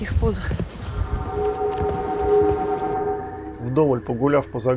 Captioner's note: загадочный звук